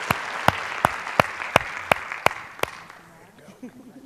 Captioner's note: applause